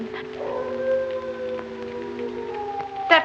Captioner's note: howling